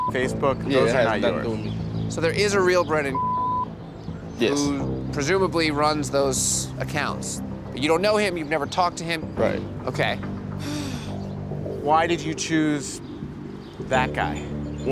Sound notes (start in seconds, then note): 0.0 beep; 3.1 beep; 10.6 sighing